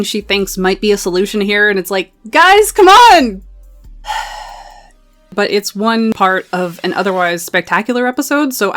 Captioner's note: sighs